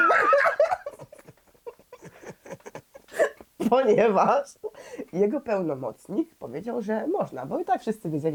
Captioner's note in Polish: śmiech